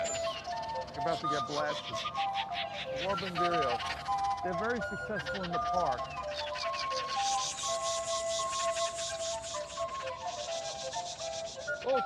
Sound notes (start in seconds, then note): 6.1 imitating birds